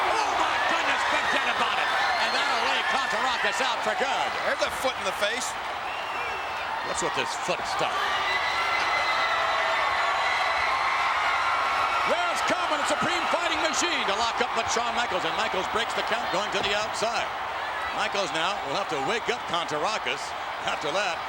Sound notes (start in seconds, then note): 8.5 applause